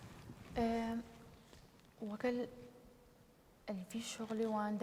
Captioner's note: speaking kurdish